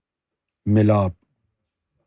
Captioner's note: in Urdu